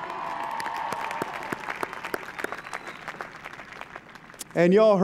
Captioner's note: applause